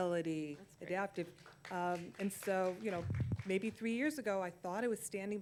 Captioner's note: applause